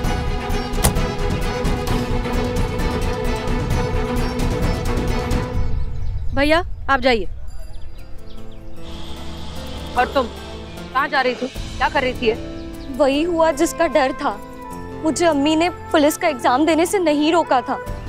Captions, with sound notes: [door closes] Brother, go! And you. Where were you going? What were you doing? My fears came true. Ammi did not stop me from giving the police exam.